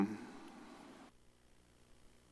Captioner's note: pause